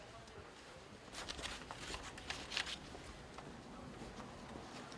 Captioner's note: indistinct chatter